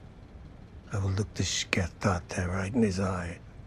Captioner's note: non-english speech